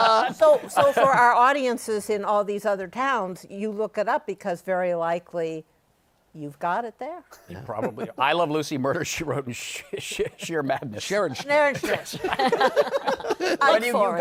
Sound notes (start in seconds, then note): 12.6 laughter